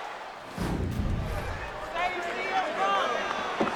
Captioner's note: audience cheering and clapping; air whooshes; audience chattering